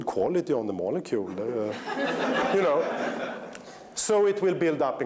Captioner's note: laughter